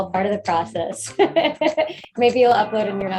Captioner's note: laughing